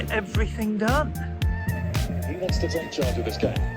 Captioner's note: tv commentary